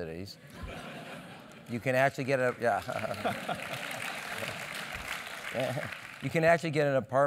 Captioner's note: applause; laugh